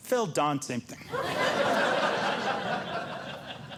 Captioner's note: audience laughing